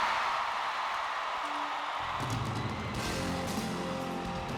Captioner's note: crowd cheers